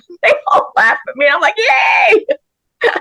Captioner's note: laughs